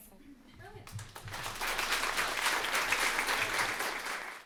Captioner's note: applause